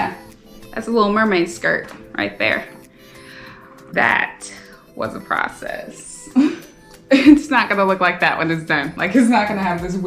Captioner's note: laughs